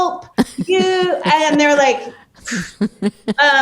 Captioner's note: puffs